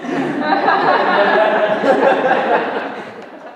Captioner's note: laughter